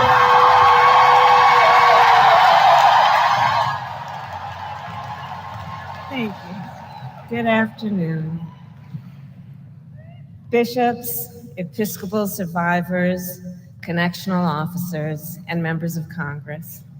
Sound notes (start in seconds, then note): 0.0 applause